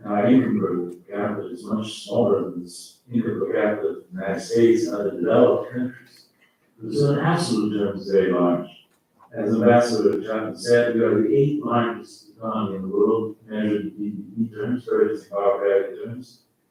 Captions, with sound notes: and our income per capita is much smaller than the income per capita of the United States and other developed countries, this is an absolute (faintly speaking) as Ambassador Chapman said said we are the 8th largest economy in the world, measured in (faintly speaking),